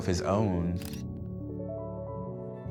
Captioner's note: camera clicks; bright piano music